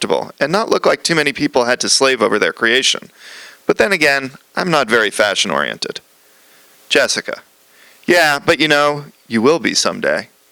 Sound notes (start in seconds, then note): none